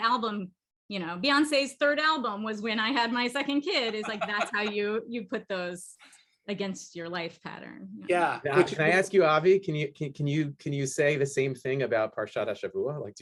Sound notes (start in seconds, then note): 3.6 laughter